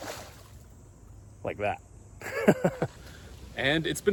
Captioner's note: laughs